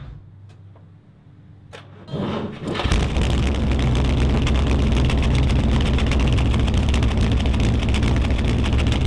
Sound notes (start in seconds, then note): 0.0 door Slam; 3.6 loud Engine Starts